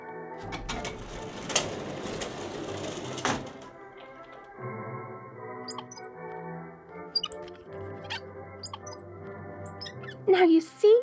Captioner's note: the door opens, squeaking wheels